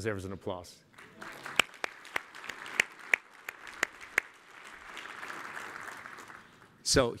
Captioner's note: applause